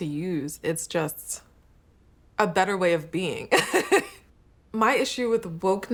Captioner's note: laughter